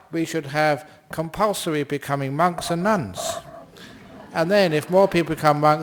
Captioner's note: laughter